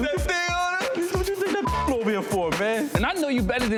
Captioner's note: beep